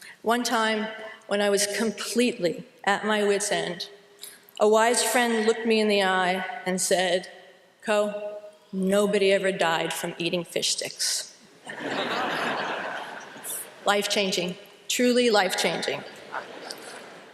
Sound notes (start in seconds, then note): 11.6 laughter